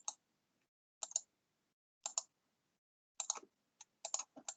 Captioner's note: mouse clicking